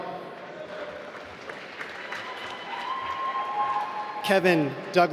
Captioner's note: applause